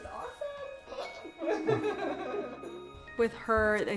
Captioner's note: laughing